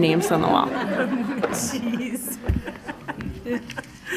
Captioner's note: laughing